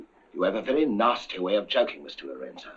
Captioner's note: none